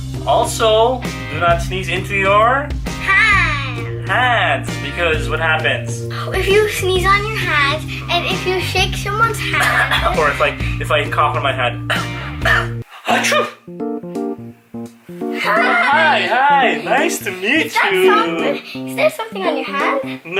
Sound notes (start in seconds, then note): 12.4 cough; 13.1 sneeze